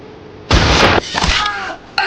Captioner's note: gunshot booming; sword slicing; man yelling